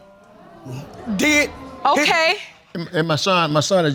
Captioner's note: audience exclaiming